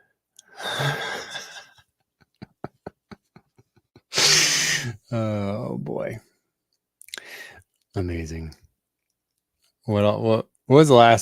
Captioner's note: laughing